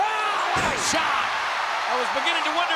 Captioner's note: audience cheering; body thuds